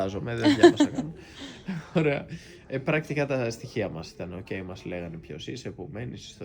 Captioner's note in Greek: γέλια